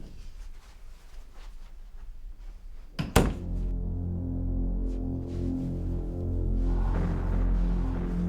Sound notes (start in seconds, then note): 3.0 shutting door; 5.0 dark music